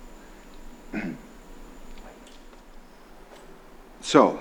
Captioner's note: Frank clears throat